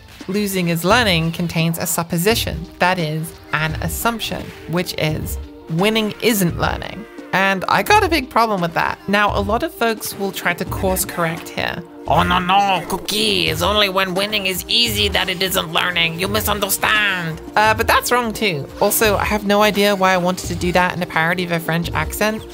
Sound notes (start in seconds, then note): 12.0 bad french accent